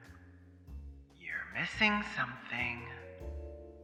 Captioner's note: whispered